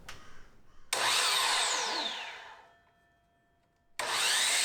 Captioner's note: saw whirring